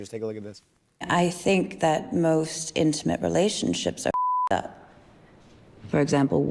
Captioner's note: beep